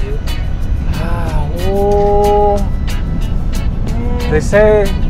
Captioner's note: frustrated moaning